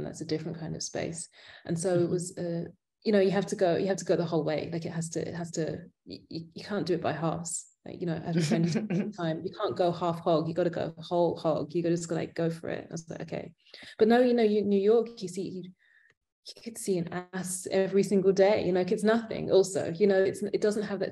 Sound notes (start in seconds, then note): 8.4 laughing